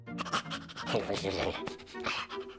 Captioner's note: panting